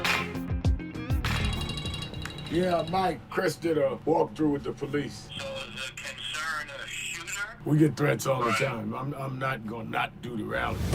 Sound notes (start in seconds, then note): 0.0 bold upbeat music; 1.2 phone rings